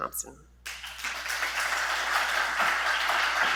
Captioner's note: applause